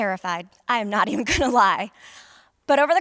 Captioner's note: laughter